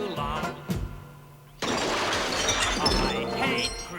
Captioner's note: crash